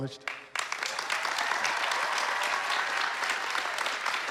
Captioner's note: applause